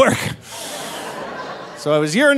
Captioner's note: audience laughing